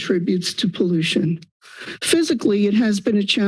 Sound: inhales

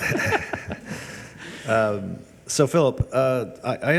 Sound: people chuckle

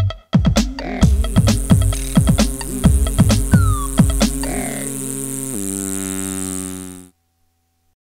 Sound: buzzing

